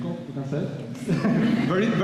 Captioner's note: laughter